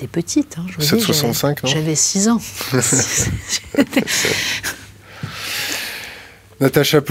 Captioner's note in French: Rires